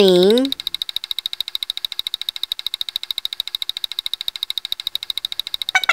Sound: clicking

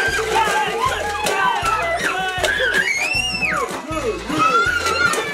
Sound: everyone screams

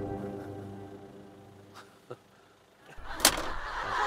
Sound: silent

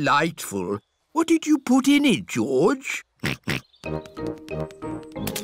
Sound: snorts

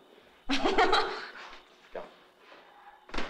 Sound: laughs

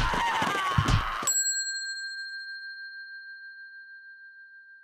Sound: bell dinging

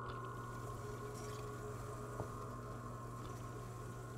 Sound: water running

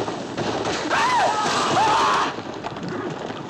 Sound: screaming

